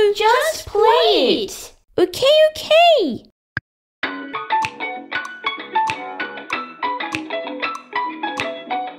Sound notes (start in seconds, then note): 3.3 click!